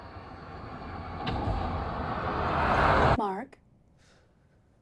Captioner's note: vehicle engine whirring